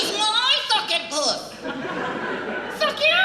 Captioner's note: audience Laughs